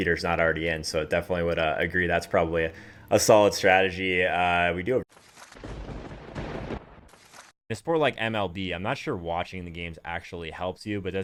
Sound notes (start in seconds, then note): 5.5 lightning striking